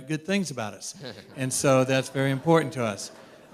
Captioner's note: laughter